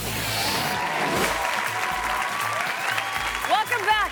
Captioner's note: audience applauding and cheering